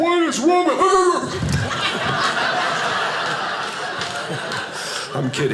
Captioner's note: audience laughing